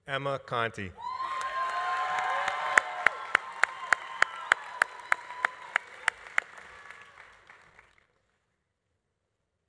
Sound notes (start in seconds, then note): 1.0 audience cheering; 1.1 audience applauding